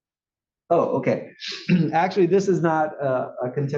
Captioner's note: cough